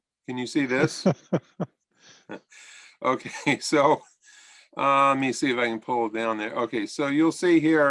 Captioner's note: laughter